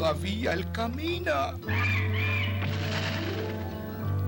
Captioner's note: bird crying